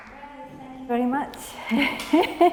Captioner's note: chuckles